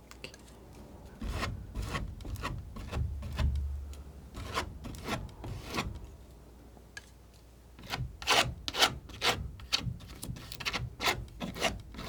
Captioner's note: scratching